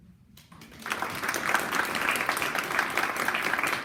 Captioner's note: clapping